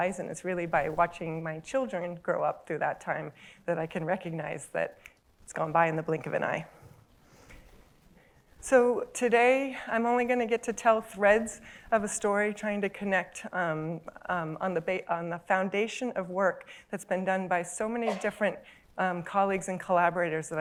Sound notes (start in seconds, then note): 5.1 snap